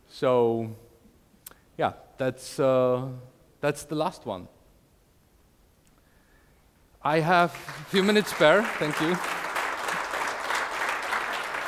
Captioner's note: applause